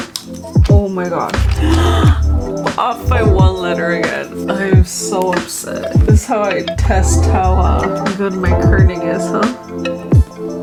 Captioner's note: gasp!